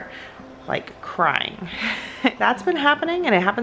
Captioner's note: laughs